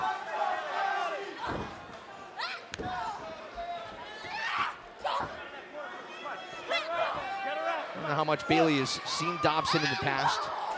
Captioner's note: crowd chatter